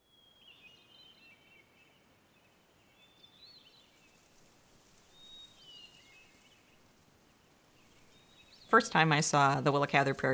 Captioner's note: birds chirping